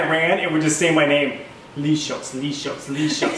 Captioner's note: laugh